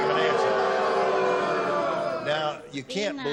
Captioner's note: booing